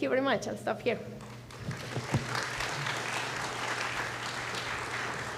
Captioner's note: applause